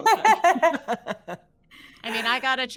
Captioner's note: all laughing